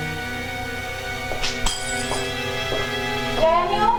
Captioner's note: footsteps tapping